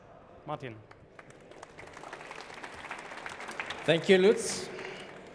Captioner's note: applause